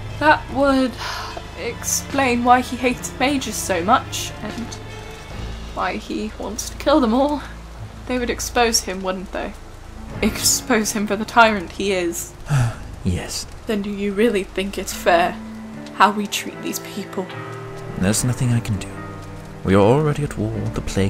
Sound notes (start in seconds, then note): 12.4 sigh